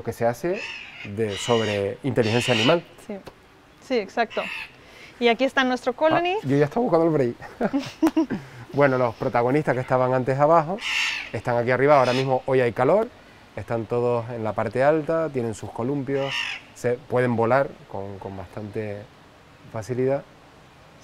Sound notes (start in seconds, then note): 7.4 laughs